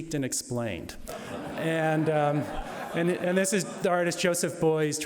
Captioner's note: audience laughing